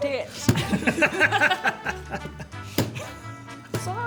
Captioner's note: laughing